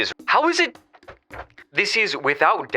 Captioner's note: angry rustling